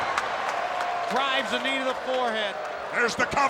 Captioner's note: applause